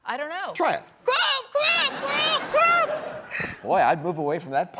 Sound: audience laughs

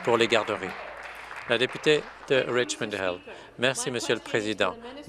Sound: applause

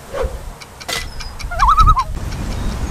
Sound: loon call

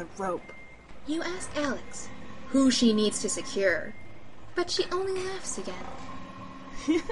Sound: casual voice

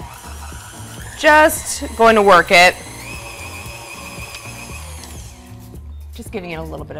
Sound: mixer whirring

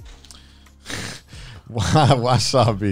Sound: chuckles

